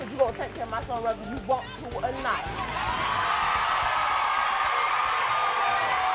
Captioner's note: audience cheers